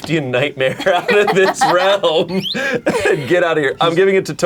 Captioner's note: laughs